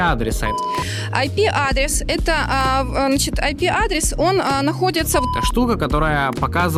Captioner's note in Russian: звук мема